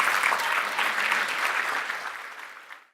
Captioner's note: applause